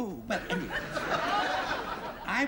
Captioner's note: laughter